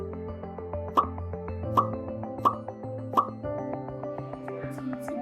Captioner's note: popping sound of happy emoji